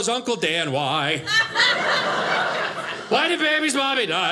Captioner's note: audience laughing